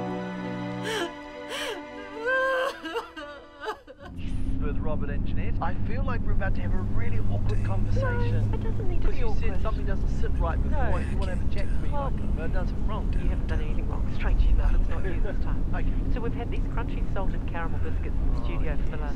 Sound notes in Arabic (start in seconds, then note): 5.0 رجل على الراديو; 8.7 امرأة في الراديو; 9.6 رجل على الراديو; 13.2 امرأة في الراديو